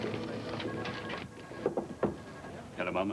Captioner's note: knock knock